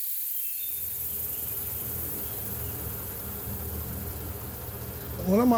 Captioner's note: boat engine humming